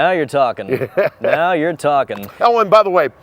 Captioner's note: laughs